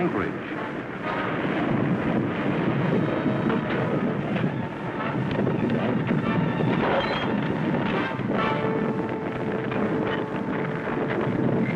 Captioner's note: crashing, crumbling, earthquake-like sounds